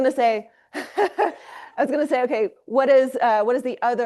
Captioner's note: laughs